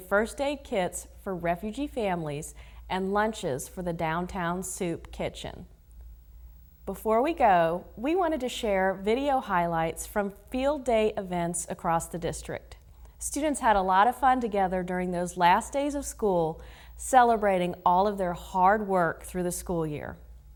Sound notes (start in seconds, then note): none